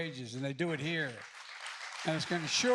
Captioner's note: applause